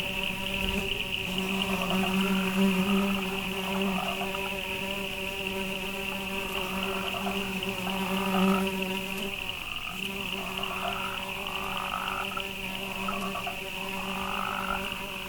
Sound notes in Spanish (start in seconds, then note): 0.0 sumbidos de escarabajos